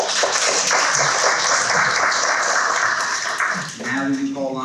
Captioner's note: people clapping